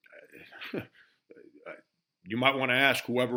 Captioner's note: Frank chuckling